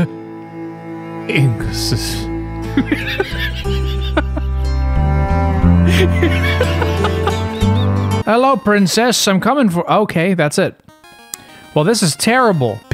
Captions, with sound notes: [laughs] Hello, princess! I'm coming for -- Okay, that's it. Well, this is terrible.